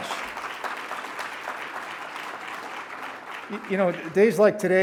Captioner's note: congregation clapping